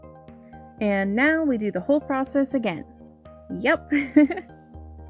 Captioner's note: laugh